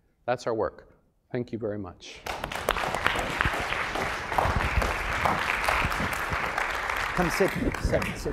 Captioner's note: applause